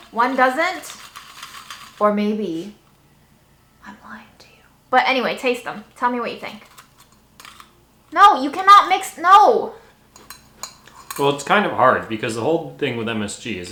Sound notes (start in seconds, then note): 10.1 plates clattering